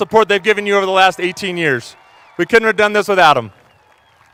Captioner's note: cheers and applause